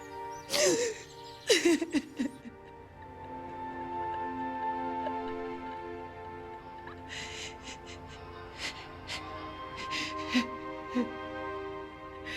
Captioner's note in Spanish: Sollozos